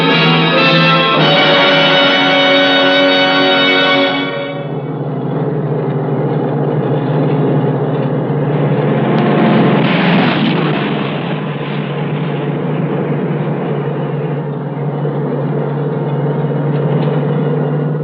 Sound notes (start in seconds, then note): 4.4 bus engine